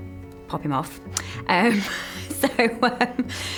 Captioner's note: laughter